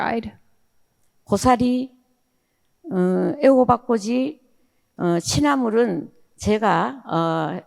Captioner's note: speaking in foreign language